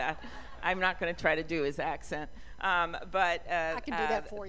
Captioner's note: laughter